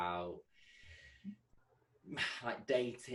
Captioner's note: sigh